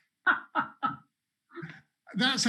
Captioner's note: laughs